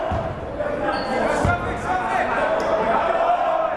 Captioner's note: chattering